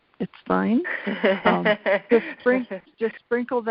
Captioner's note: laughs